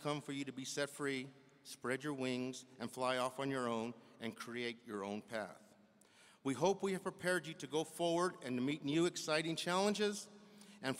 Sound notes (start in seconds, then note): none